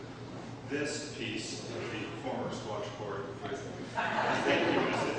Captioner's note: laughter